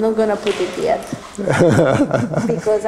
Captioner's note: laughs